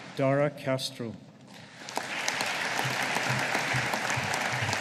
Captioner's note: audience applauding